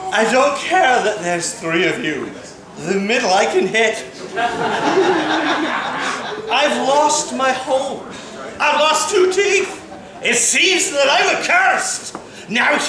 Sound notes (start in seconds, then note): 4.2 laughter